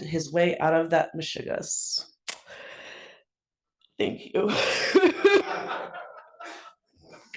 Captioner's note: laugh